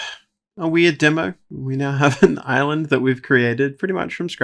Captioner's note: laughs